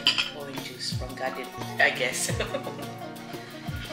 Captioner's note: laugh